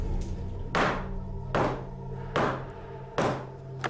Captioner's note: hammering sounds